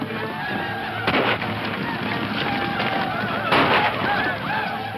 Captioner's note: Indians screaming; gun shots